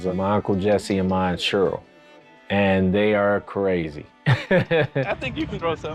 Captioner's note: laughs